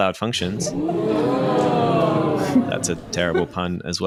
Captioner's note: oohing